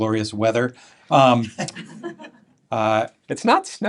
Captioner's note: laughter